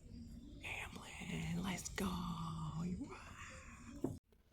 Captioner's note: quiet whispering